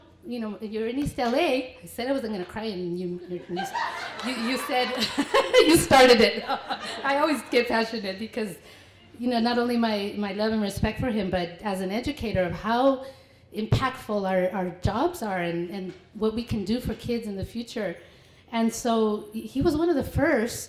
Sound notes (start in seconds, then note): 6.3 laughter